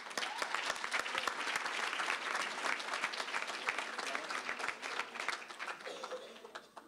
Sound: applause

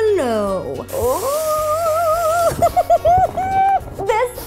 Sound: giggles

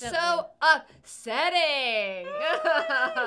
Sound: laughs

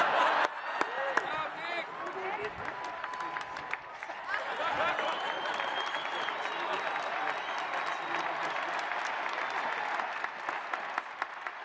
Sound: laughter

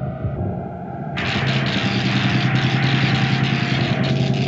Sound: sparking

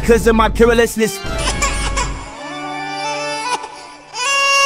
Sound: crying

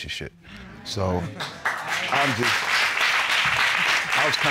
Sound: audience applaud

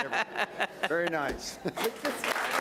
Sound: laughing; applauding

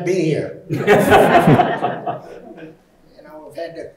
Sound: audience laughing

